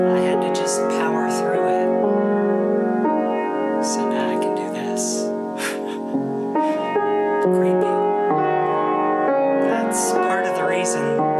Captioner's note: laughs